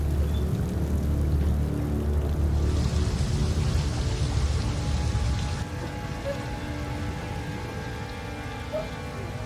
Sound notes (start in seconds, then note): 5.5 dog barking